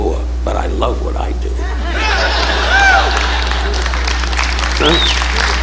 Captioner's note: audience laughing